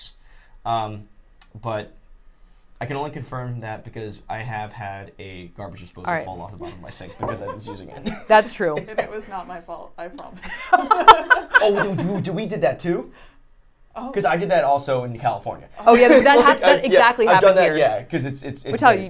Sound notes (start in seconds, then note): 10.3 laughing